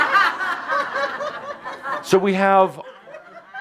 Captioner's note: laughter